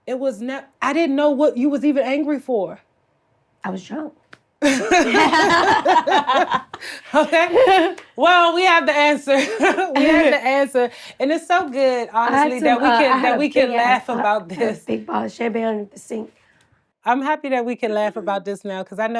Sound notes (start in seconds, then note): 4.6 Blac Chyna laughs; 4.6 Treasure laughs; 9.2 laughs